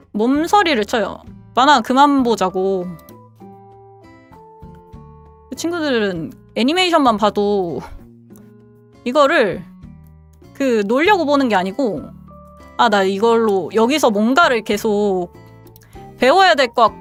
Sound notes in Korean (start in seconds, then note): none